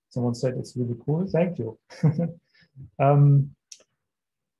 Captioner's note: laughing